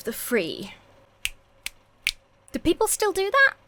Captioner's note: snaps fingers